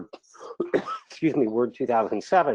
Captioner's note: coughs